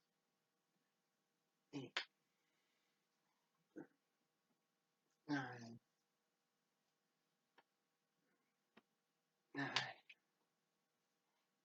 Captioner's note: back to whisper counting and sighs